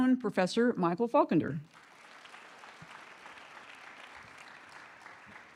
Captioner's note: audience clapping